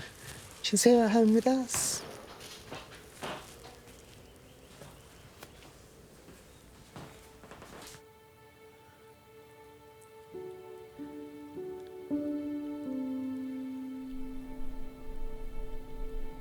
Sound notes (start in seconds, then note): 4.2 birds chirping; 7.5 sentimental music